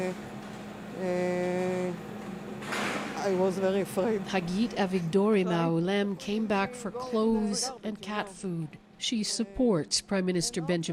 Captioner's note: speaking alternate language